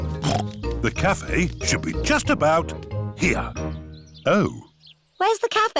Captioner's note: snorts